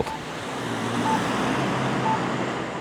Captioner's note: traffic noise